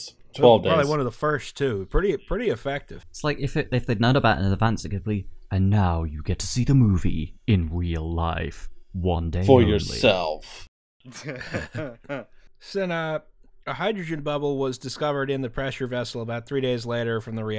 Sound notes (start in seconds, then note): 4.9 movie trailer voice; 10.0 movie trailer voice; 11.0 laughter